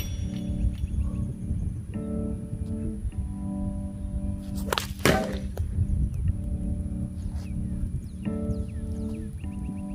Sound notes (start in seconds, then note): 5.0 loud thud